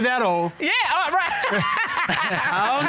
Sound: laughs

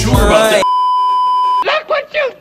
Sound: beeeeeep

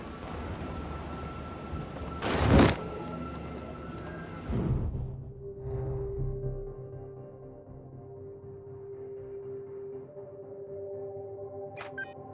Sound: thunder rumbling; beeping

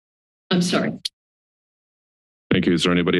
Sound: silence

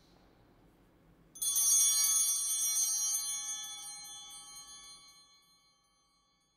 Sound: altar bells ringing

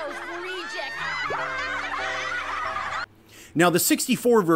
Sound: laughs

